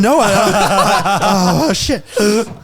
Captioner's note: all laughing